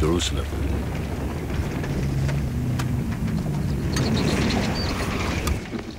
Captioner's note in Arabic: صوت محركات السيارة